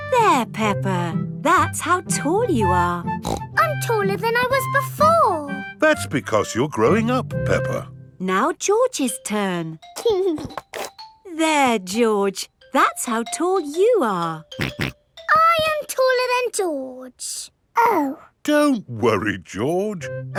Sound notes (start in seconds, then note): 3.2 snorts; 10.2 giggling; 14.6 snorts